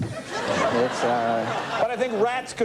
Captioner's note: audience laughs